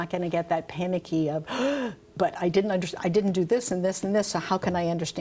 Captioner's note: gasps